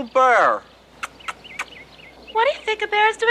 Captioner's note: kissing noises